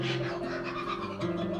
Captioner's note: kookaburra's Laughing